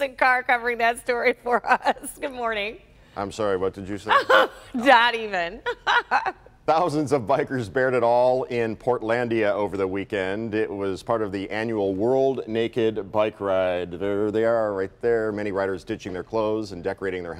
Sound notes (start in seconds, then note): 4.1 laughter